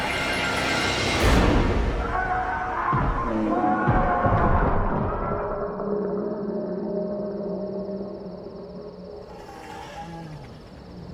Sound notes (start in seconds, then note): 3.0 fists thudding; 3.1 zombies groaning; 5.5 zombie spartacus groaning